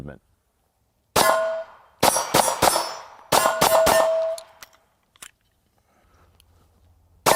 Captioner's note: gun shots